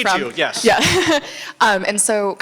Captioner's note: laughs